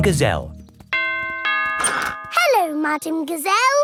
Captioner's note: doorbell rings